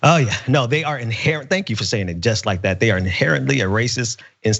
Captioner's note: laugh